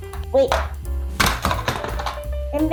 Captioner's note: bonk!